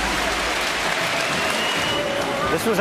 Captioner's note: applause